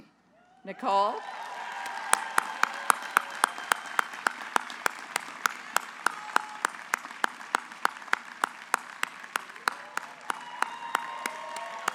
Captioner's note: applause